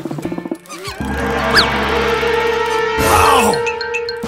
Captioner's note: crowd scared